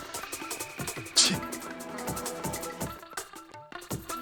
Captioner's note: tsk...!